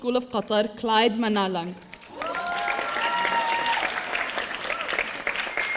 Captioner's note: audience cheering